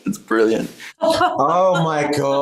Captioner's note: laughs; laughing